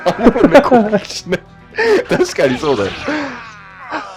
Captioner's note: laughs